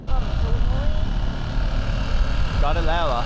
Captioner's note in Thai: เสียงเครื่องยนต์คำราม